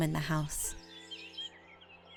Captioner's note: birds chirping